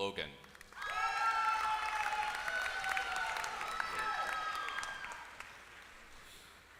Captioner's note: applause